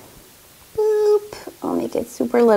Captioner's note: exclaims gently